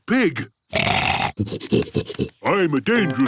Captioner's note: snorting